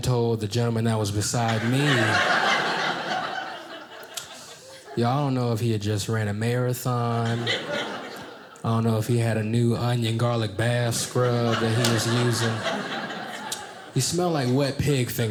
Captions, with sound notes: gentleman that was beside me. (audience laughing) Ya'll I don't know if he had just ran a marathon. I don't know if he had a new onion, garlic bath scrub that he was using. He smelt like wet pig fingers, y'all.